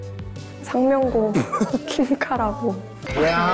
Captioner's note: chuckling